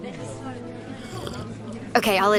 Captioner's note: slurps coffee